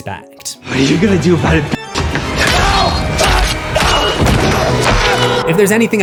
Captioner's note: screams